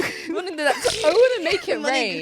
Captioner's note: both laugh